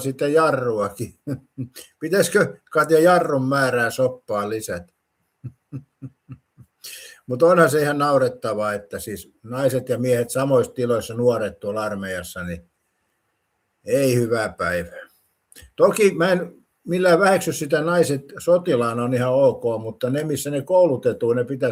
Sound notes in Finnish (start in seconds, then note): 5.4 naurua